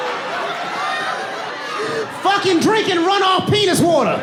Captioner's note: audience laughing